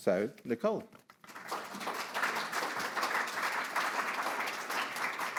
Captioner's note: audience applauds